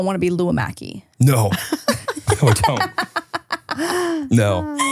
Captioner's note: laughing